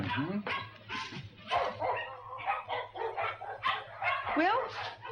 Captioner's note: dogs barking